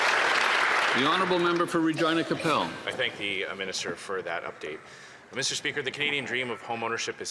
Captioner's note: applause